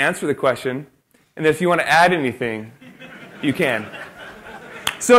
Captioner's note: laughter